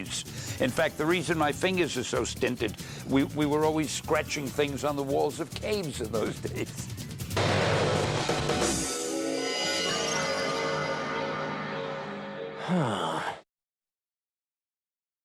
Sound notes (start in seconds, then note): 12.6 he sighs